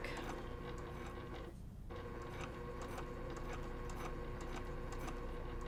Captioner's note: sewing machine whirring